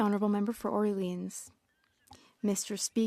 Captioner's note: speaking French